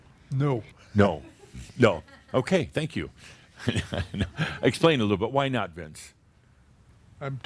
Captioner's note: Adamus chuckles